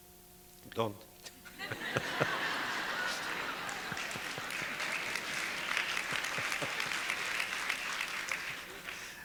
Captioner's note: audience laughter